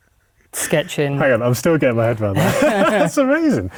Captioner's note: laughter